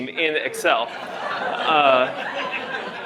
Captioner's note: laughter